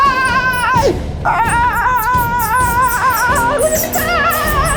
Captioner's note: yelling